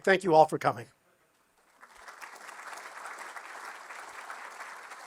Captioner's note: applause